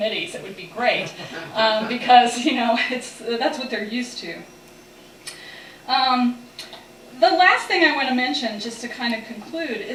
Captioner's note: laughter